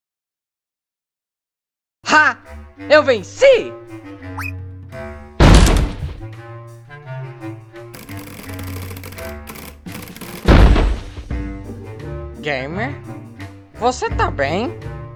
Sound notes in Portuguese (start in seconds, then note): 5.4 Crash